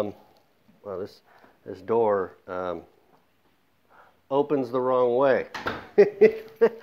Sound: laughs

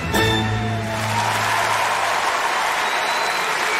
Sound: applause

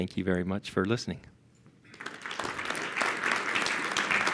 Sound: applause

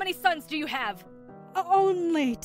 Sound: In Andy’s voice

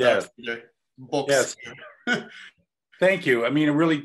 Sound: laugh

